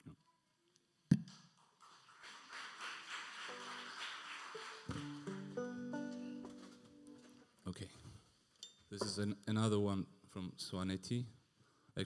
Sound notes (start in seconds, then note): 1.6 audience applauding; 5.4 tuning banjo